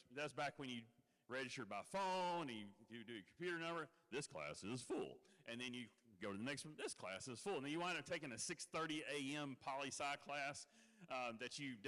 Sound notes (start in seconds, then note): none